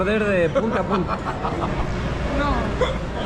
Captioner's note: laughs